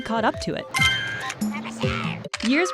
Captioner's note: camera click